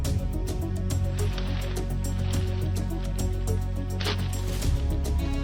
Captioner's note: footsteps thudding; suspenseful music continues